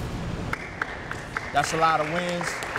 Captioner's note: applause